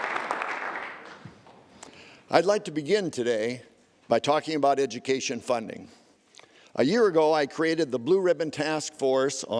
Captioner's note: applause